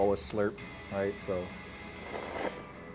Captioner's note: slurping